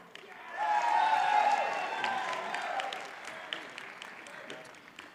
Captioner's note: audience cheers and applauds